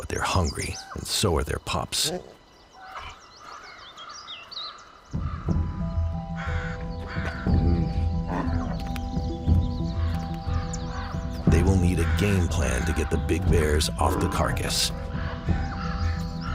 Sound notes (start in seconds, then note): 3.0 birdsong; 7.5 bears growl